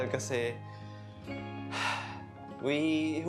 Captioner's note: sigh